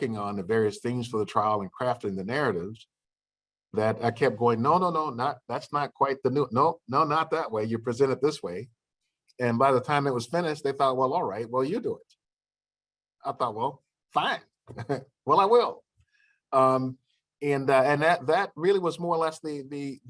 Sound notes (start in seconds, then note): 14.7 laughter